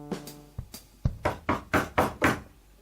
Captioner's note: knocking at the door